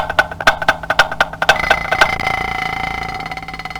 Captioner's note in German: Wecker klingelt